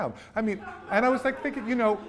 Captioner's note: students laugh